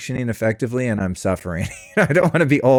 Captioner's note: laughs